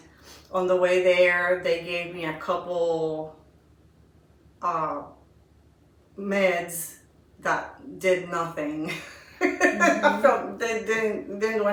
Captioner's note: laughing